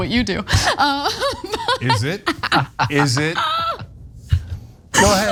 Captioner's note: laugh